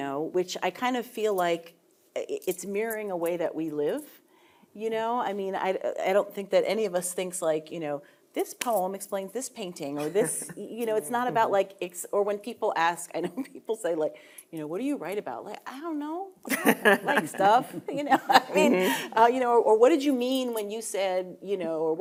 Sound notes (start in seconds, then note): 13.0 chuckling; 16.5 panelists laughing